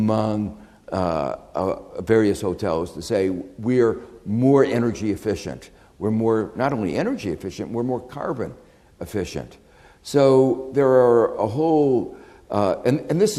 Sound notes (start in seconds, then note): none